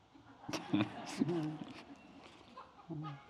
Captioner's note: laughing